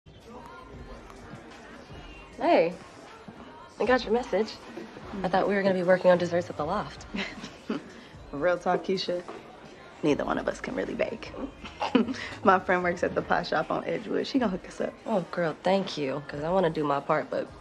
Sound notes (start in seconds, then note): 7.1 chuckles